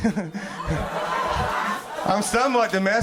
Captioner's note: crowd laughs